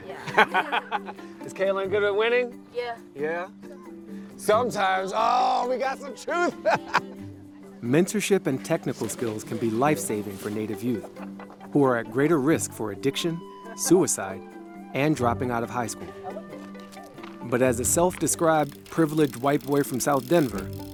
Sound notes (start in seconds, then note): 0.1 all laughing; 6.3 laughs